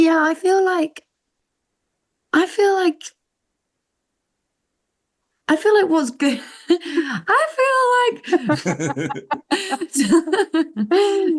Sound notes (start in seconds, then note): 7.5 mock tone; 8.2 laughter